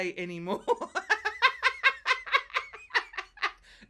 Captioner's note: laughs